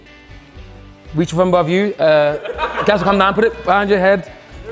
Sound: group laughs

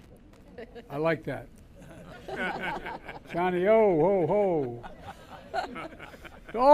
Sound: laughter

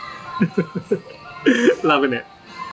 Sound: chuckles

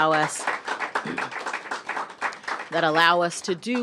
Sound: applause

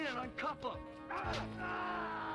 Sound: screaming

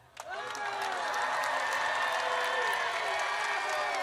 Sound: audience cheers

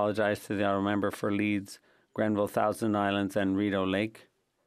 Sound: speaking French

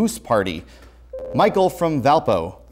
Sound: buzzer

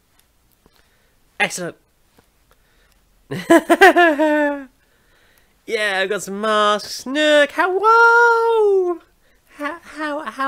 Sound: laughs

